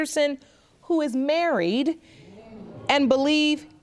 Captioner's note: audience gasps